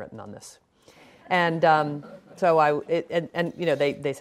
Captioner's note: laughing